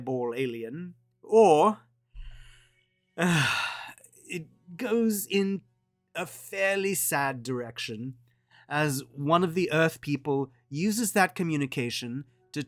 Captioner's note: sigh